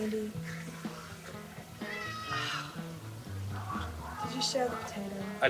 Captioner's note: sighing